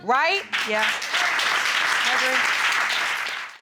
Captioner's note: audience applauding